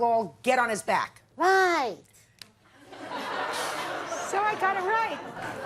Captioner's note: audience laughs